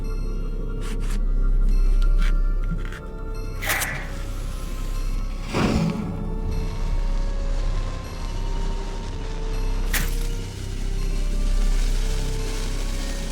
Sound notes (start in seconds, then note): 2.5 matches clattering; 3.6 match striking; 10.0 fire crackling